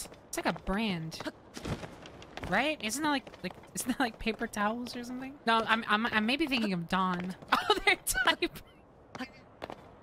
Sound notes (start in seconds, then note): 7.4 laughing